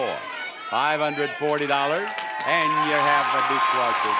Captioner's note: bell dings repeatedly